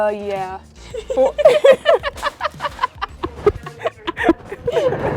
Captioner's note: both laughing